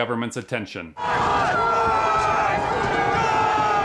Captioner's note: shouting